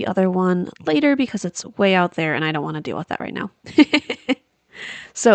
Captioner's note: laughs